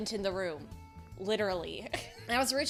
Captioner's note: laughs